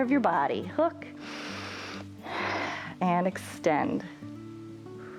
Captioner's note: inhales and exhales